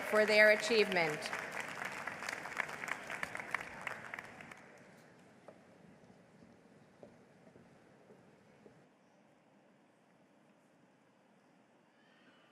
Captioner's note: applause